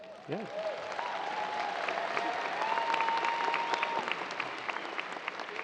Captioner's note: audience cheers and applause